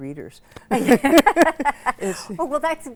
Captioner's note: laugh